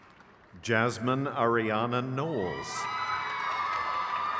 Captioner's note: crowd claps